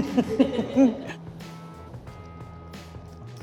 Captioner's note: laughs